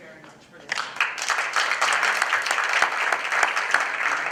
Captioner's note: applause